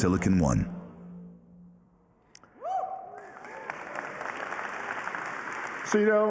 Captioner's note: applause